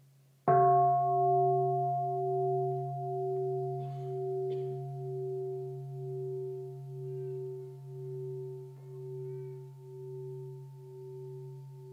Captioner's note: bell